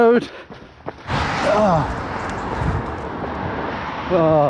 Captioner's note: traffic roaring